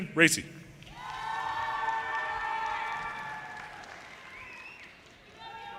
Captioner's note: audience cheers and applause